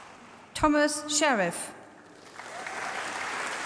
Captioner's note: applause